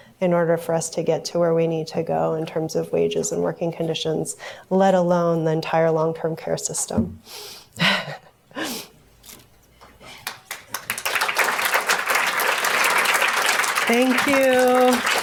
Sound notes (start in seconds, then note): 7.0 laughs; 10.2 audience applauds